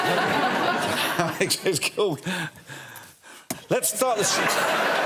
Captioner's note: chuckles